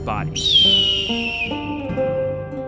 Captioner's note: eagle screeches